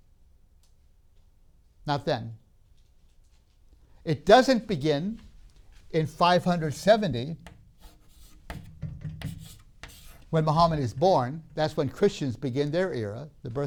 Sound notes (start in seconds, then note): 7.7 chalk sounds